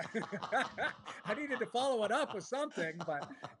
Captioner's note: laughter